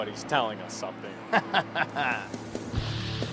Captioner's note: laughs; upbeat music